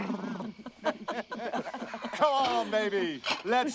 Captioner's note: laughter